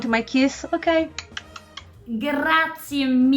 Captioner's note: kissing sounds